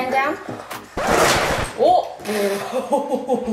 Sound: record scratches; laughs

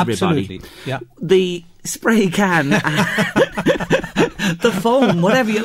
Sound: chuckle by both

